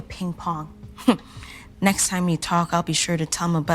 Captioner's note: laughing